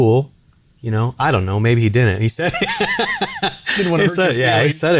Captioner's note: laughing